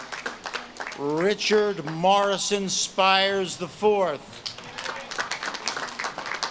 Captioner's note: audience claps and cheers